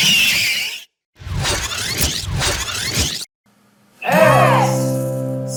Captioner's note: tape rewinds